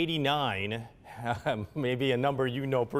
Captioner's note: laughing